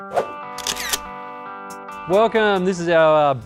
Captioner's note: relaxed electric guitar music; camera shutters